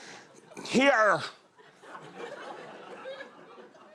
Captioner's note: laughter